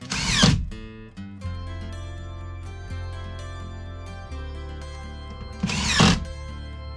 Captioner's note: door creaks; door creaks